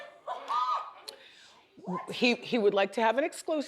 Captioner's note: audience exclaims